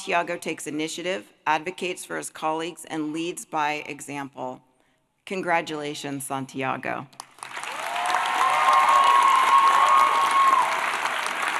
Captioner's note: applause